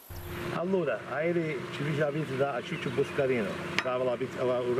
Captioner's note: speaking foreign language